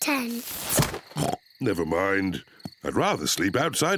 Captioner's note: oinks